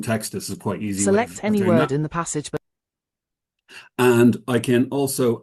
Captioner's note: text to Speech Voice